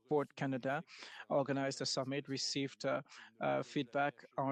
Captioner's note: speaking French